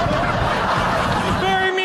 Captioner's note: audience laughing